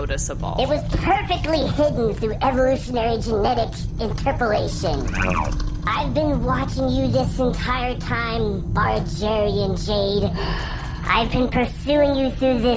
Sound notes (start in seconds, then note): 10.3 Bargie sighs